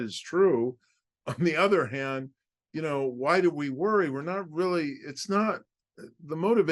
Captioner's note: laugh